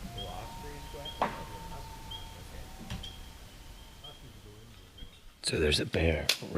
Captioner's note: loon calling, frogs chirping